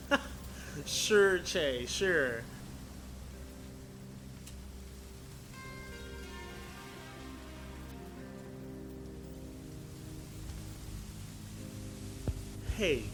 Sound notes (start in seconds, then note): 4.1 fog static starts to slowly set in